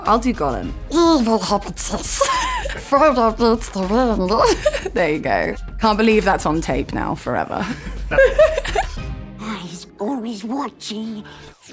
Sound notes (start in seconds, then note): 2.1 laughs; 4.5 regular voice; 7.7 laughs